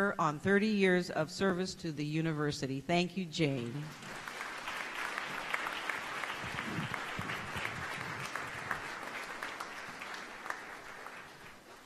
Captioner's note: applause